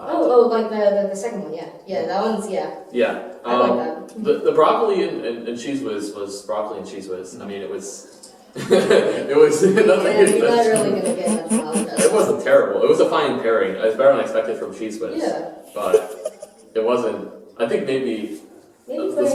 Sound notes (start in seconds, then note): 8.6 laughter; 10.3 snorting